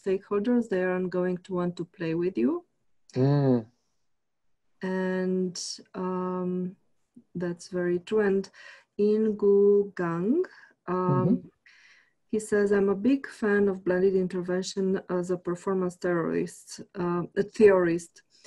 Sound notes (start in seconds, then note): 8.8 foreign language